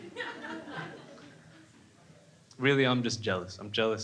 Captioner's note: crowd laughing